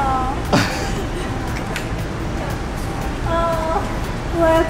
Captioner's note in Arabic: يضحك